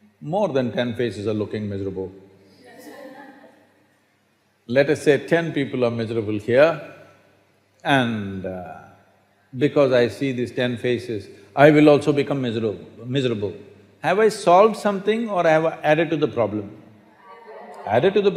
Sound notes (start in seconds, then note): 2.1 laughter